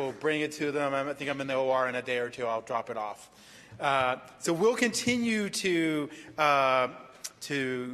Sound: applause

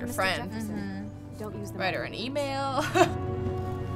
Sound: chuckles

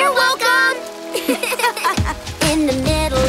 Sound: laughing

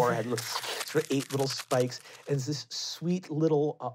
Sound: squishing

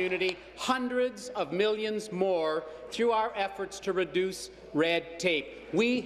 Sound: applause

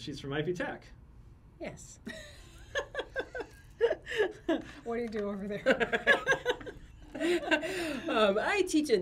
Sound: laughs

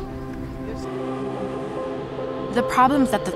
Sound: subway humming

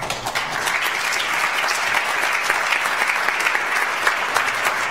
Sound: audience applauds

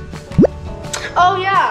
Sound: bloop noise

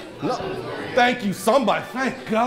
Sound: background chatter

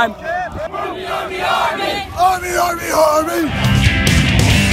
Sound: chanting; upbeat music

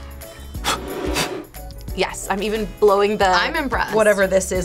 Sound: blows

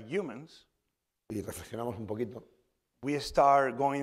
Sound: speaking spanish

